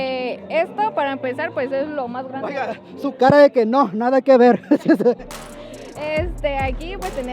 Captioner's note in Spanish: risas